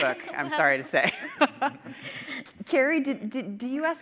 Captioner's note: chuckling